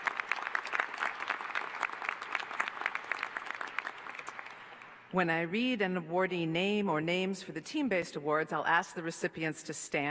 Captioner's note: applause